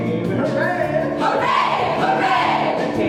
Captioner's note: cheering